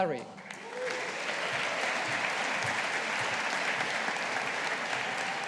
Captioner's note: audience applauding